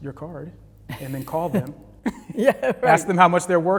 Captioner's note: laughing